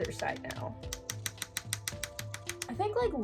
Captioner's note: slappy sounds